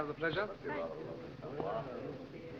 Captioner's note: murmuring